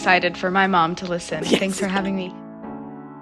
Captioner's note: laughter